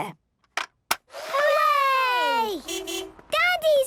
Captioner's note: distant beeping